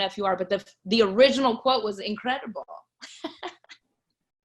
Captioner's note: laughs